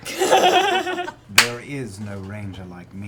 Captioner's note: laughter